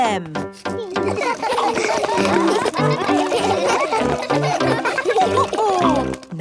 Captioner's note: all laugh